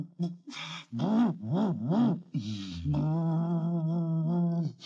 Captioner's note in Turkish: araba takli̇di̇ne devam eder